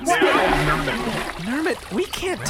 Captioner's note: splashing sound as Nermut spits out the Gurp